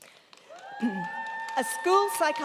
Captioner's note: crowd cheering